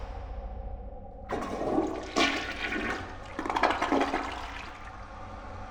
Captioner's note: ominous music continues; toilet sputtering